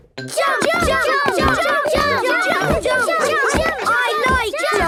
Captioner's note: all shouting "Jump! Jump!"